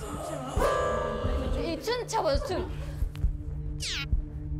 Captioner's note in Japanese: ゾクゾクするうめき声…